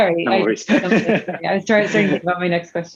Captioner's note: laughs